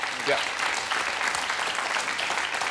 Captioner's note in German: Applaus